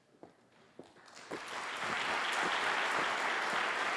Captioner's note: applause